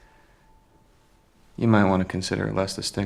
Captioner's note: none